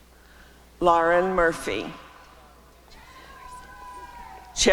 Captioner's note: applause and cheering